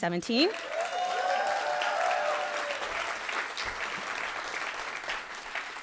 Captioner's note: audience cheering and applauding